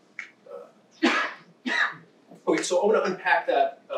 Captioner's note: person coughing